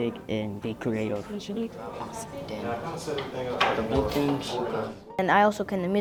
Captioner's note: the teacher and students talking in the classroom